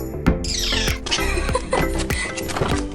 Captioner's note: laughter